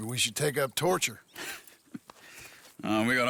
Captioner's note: Charles chuckles